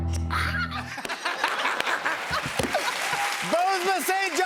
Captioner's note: cheers and applause